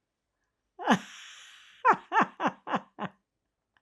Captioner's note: laughing